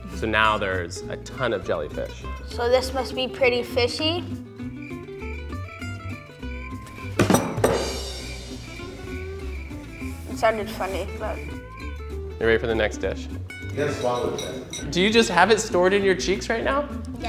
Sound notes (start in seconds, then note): 5.0 crickets chirping; 6.8 hits table; 7.0 drum sounds; 9.1 crickets continue chirping